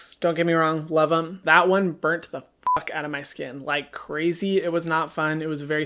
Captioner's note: beep